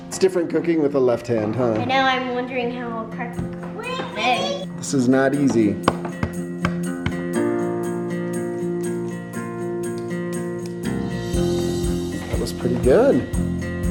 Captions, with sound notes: It's different cooking with the left hand, huh? - And now I'm wondering how I'll crack, an egg. - We we... - This is not easy. (egg cracking) (gentle music) - That was pretty good.